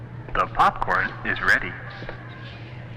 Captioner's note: man On PA